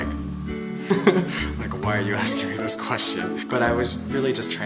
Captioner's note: laughs